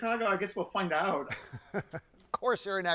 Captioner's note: laughs